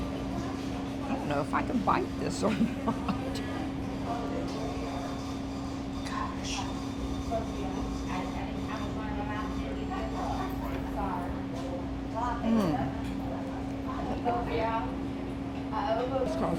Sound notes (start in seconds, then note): 2.4 laughing